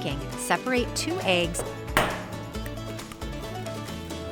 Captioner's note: egg smacks